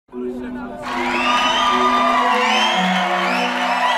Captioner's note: applause